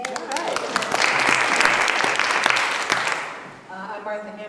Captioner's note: applause